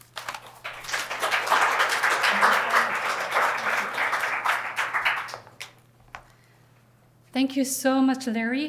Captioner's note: applause